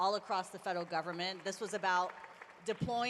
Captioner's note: applause